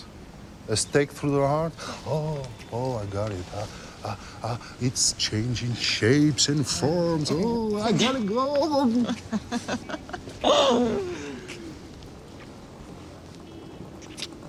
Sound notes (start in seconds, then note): 8.6 chuckles